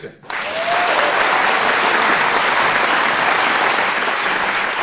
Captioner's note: audience applauding